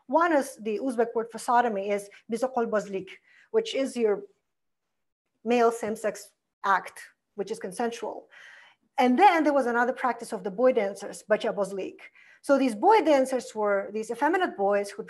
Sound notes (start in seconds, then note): 2.3 foreign language; 11.2 foreign language